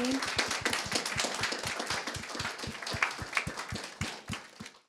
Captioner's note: audience applauding